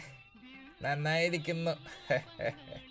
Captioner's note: laughs